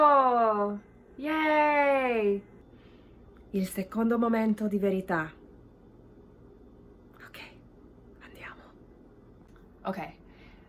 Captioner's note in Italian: sussurato